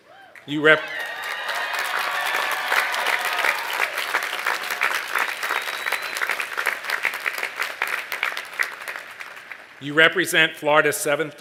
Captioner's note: cheers and applause